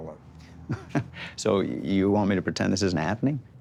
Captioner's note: chuckles